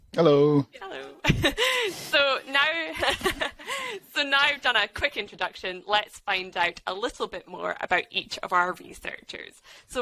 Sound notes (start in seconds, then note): 2.9 chuckles